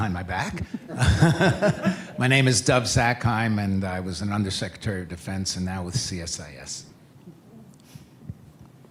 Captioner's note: laughter